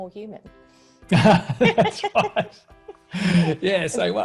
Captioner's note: laughs